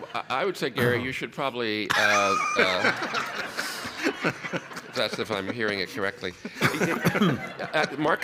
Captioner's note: laughs; laughter